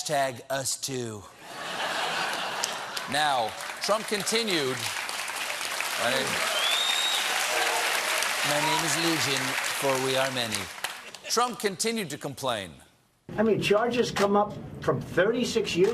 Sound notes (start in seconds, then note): 8.3 applause